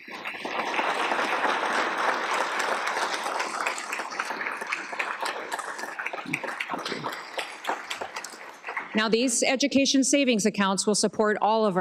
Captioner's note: applause